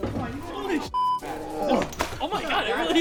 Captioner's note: beep